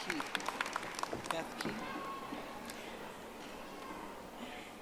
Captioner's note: audience applauding